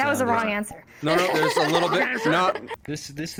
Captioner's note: laughing